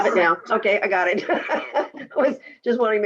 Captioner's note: laughs